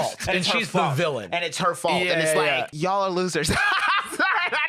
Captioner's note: laughs